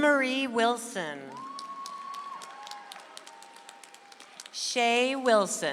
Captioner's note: audience applauds